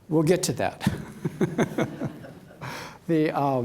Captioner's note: laughs